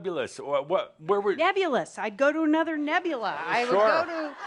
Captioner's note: laughter